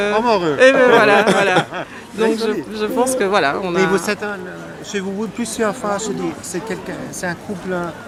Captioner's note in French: rires